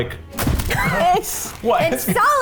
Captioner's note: wrapper crinkles